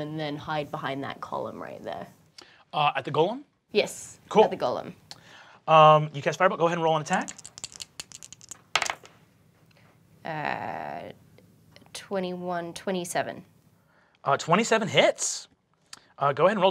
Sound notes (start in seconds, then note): 7.1 dice rattle